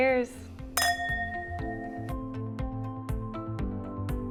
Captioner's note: glasses clang